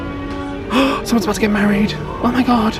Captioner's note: gasps